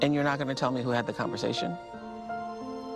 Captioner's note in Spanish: AUDIO EN INGLéS